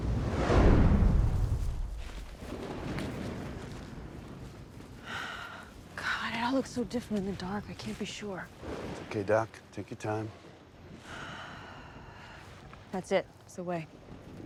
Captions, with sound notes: God, it all looks so. Different in the dark. I can't be sure. Okay, doc, take your time. [Sigh] That's it. It's the way.